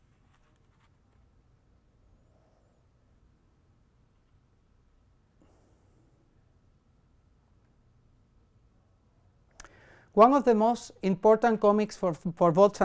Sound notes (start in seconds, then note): none